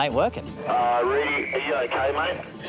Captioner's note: voice over the radio